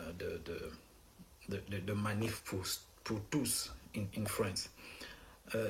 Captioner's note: speaking in foreign language